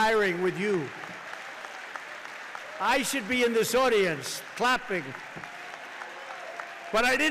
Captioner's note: applause